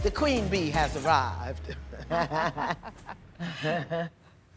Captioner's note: laughing